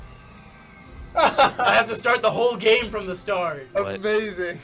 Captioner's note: laughs